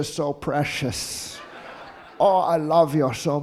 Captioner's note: audience laughing